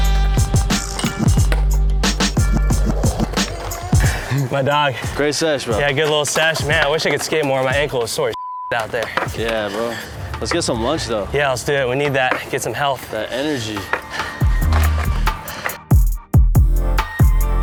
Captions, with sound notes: - My dog. - Great sesh, bro. - Yeah, good little sesh. Man, I wish I could skate more. My ankle was sore as (beep) out there. - Yeah bro. Let's get some lunch though. - Yeah, let's do that, we need that. Get some health. - That energy. (upbeat music)